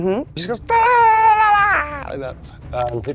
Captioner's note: grunts